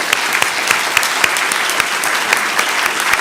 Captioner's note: applause